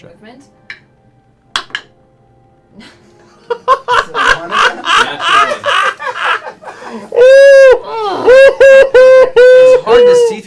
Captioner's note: laughter